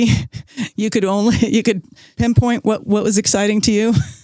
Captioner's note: chuckles